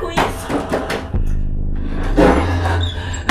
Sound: angry growling noises; door beating noises

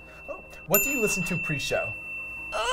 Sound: bell dings

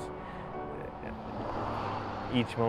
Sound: car rumbles

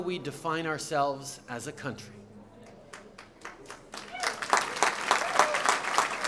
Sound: applause

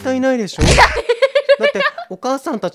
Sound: DEHEHEHEH lololololol

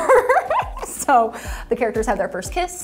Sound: laughing

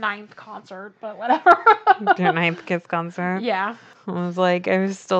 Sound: laughs

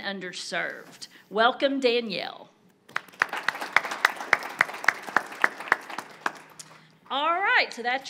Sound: audience applauding

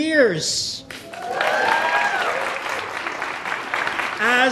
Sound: audience cheering

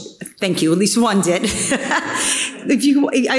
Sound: chuckles

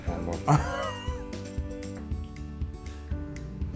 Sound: laugh

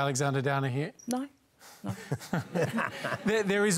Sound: laughter

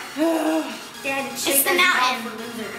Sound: groans

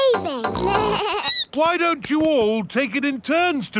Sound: snorts; bleats

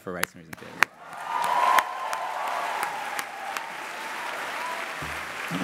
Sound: cheering and applause

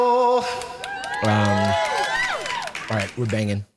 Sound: cheering

